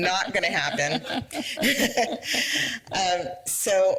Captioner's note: laughter